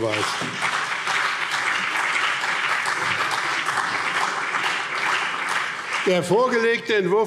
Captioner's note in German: Beifall BÜNDNIS 90/DIE GRÜNEN und CDU